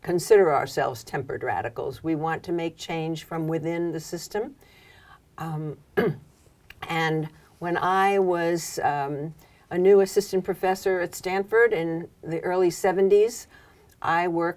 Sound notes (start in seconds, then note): 5.9 cough